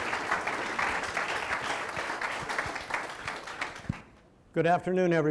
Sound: audience applauding

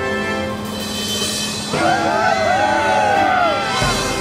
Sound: cheering

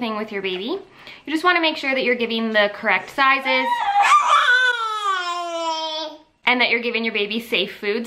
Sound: baby babble

